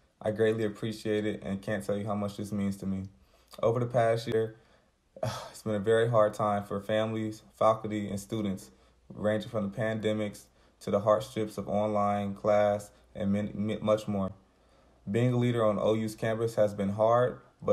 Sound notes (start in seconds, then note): 5.2 sighs